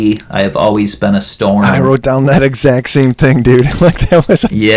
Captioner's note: laughs